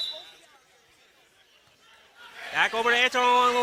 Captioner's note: whistling